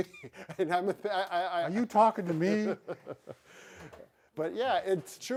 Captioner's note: laughs